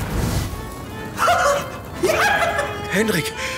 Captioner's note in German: lachen, freuen